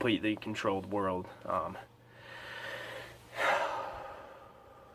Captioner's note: breath